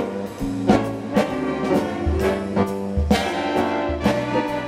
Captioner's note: none